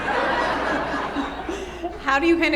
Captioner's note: audience laughs